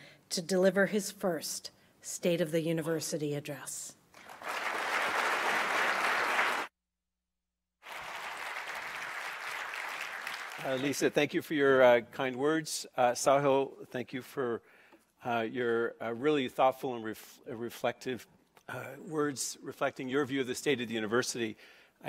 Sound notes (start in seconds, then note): 4.2 clapping